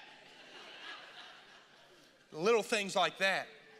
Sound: congregation laughing

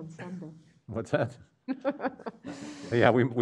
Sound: woman laughs

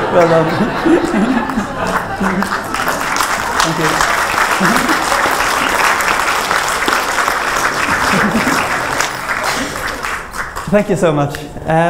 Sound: laughter, applause

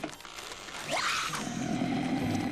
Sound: animal screams; Lurch groans

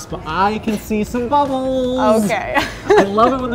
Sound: laughs

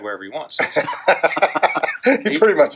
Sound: laughing

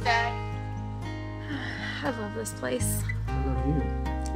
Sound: sighs

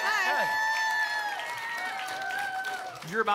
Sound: applause and cheering cont

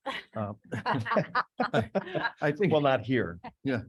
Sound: board laughing

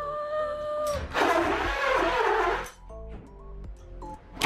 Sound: drill whirring

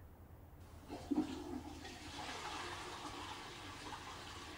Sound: toilet flushes

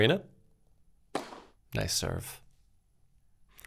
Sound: object bangs

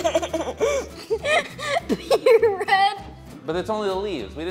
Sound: laughs

